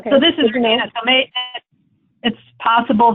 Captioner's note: audio skips